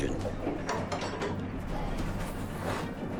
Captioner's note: metal clanking